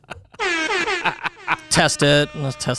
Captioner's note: laughs; horns blaring